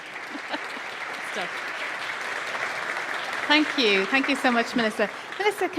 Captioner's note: applause